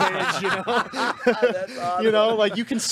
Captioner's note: group laughing